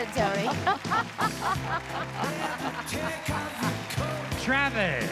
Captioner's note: both laughing